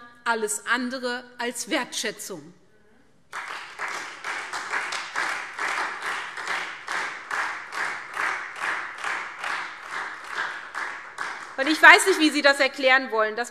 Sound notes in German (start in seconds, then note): 3.3 Beifall SPD und Freie Demokraten